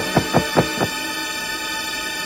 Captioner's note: pounding